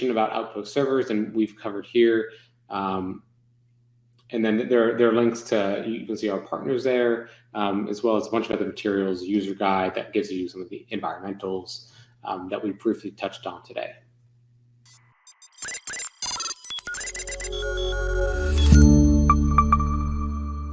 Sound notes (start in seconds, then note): 14.9 console beeping; 17.5 gentle music